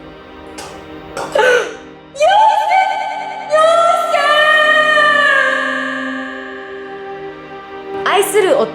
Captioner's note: crying